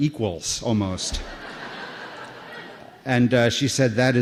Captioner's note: laughter